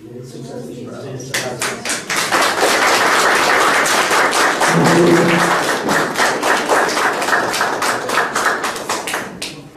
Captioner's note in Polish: oklaski